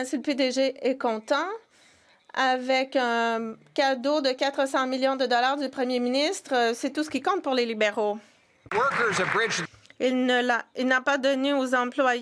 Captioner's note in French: voix de l'interprète